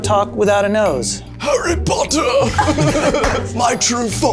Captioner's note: Mimics Voldemort Voice